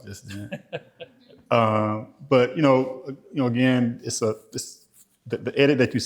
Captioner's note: laughter